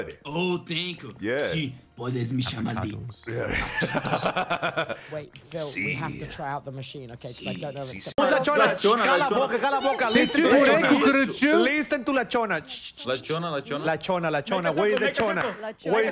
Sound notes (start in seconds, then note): 3.4 laughs